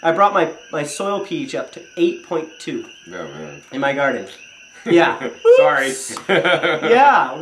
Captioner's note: chuckles